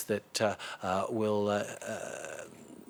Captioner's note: speaking in French